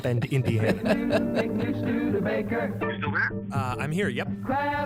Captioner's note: laughs